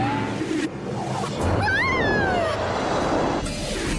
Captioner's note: Mrs. Botsford screams